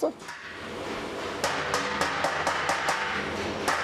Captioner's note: light hammering